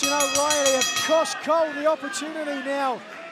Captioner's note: bell ringing